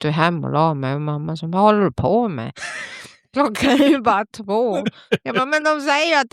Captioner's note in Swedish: skratt